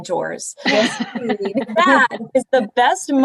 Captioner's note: laughter